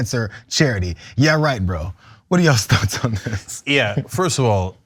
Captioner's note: laugh